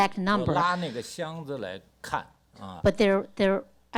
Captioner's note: speaks Mandarin